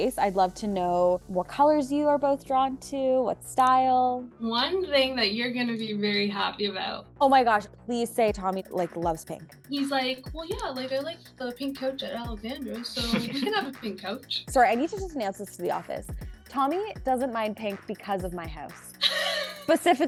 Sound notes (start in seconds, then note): 13.0 laughing; 19.1 laughing